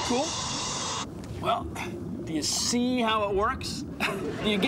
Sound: laughs

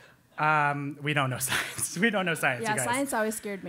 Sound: laugh

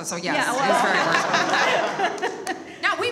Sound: all laugh

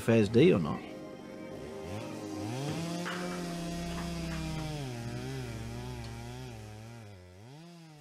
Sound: chainsaw Buzzing

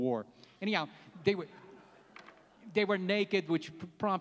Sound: laughs

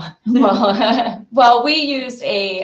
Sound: laughing together

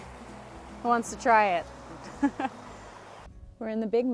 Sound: laughs

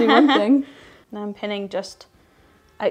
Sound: laughing

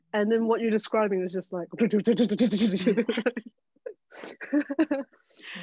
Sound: murmurs; all laughing

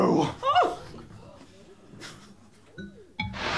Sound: gasps

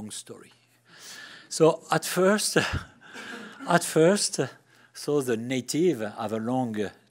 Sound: laughs

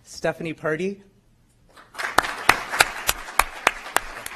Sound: applause

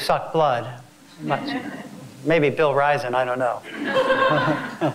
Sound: laugh

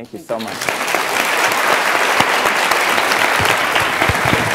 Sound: students applauding

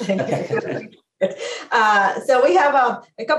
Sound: laughs

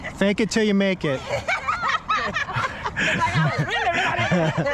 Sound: laughter

